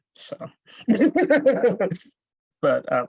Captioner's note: laughs